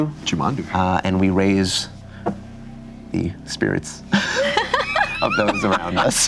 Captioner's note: laughing